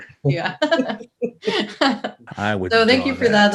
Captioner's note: laughing